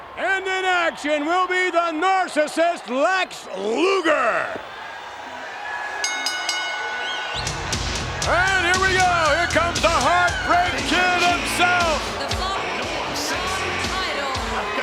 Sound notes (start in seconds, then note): 4.8 audience cheers; 6.0 bell rings; 7.7 upbeat music